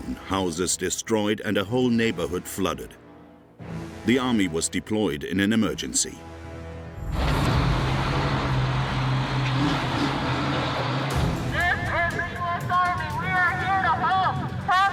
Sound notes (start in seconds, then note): 7.0 engine whirring